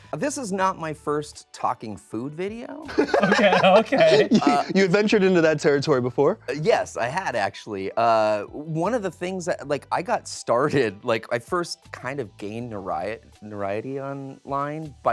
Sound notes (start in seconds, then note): 2.9 host laughs